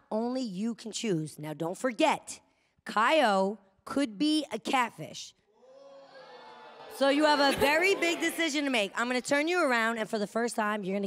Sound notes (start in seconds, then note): 5.5 audience groans